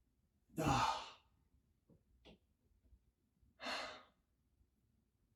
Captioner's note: Chuck sighs